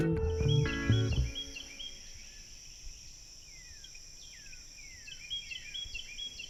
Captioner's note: birds tweeting; insects chirping